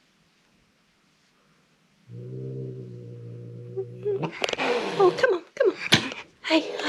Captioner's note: growling